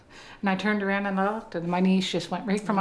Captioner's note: none